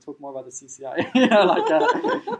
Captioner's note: laughing